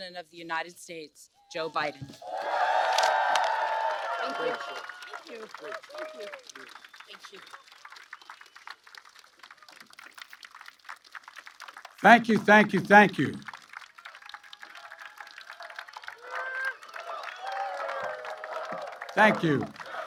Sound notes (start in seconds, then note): 3.6 applause; 14.2 applause